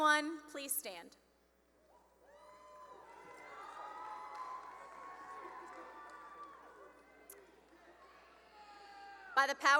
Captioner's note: cheering and applause